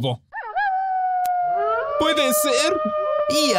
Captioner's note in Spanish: Aullido